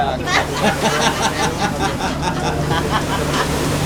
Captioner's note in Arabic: ضحك